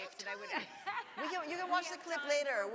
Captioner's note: laughs